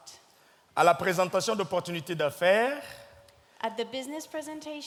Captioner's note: speaking in French